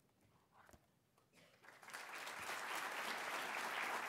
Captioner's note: applause